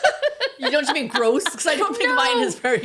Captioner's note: laughing